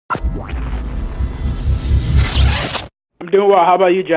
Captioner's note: electric whoosh